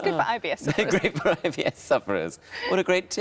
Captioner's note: laughs